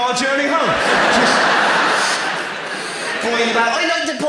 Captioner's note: audience laughs